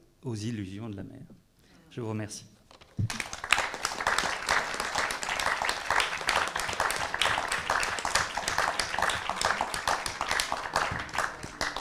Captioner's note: applause